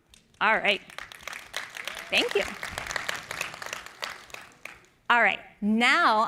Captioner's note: applause